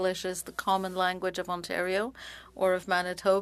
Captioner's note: speaking French